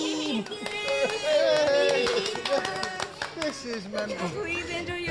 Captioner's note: cheering